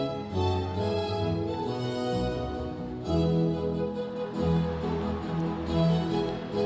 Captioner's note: crowd cheering